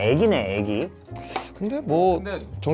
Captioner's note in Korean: 스읍